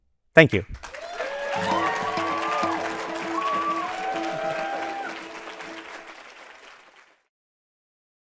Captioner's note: applause and cheering